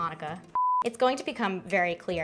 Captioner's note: beep